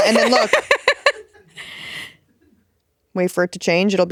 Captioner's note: laughing